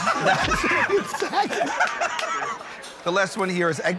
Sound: laughter

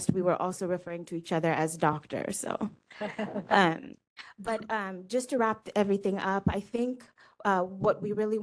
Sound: laughing

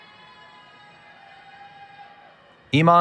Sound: cheering

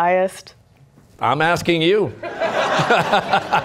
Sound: laughter

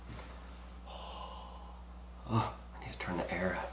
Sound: breathing deeply

